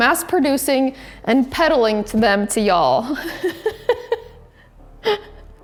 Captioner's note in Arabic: يضحك